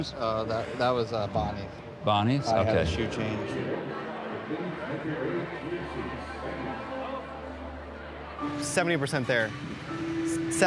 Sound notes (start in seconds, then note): 4.5 guests chattering